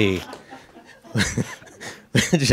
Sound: audience laughs

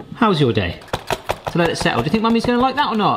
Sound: box tapping

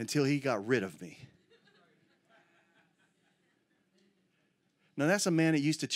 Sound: congregation chattering

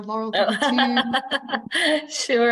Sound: laughter drowns out

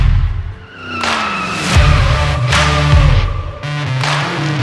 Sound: tires squealing

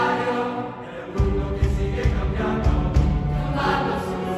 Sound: voices

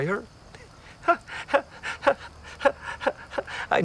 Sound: laughs

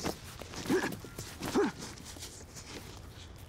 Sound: Kip grunting

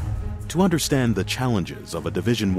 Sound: voiceover

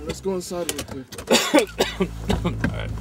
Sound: Dr. Richards coughs; suspenseful music

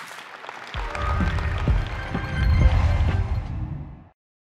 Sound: applause, music

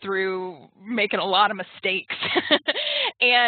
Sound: laughs

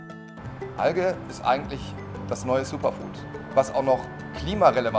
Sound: man speaking German

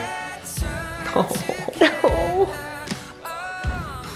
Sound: both chuckle

